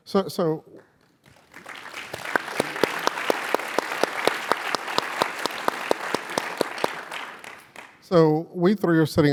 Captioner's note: applause